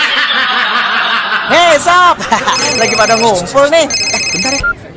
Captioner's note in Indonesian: tertawa